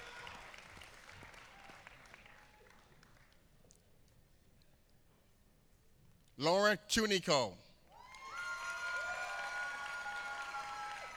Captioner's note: applause